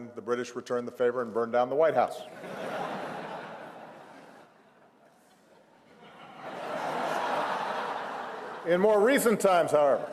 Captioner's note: laughter